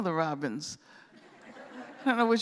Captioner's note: laughter